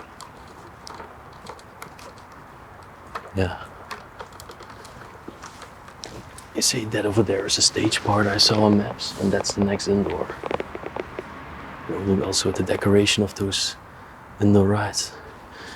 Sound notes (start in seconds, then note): none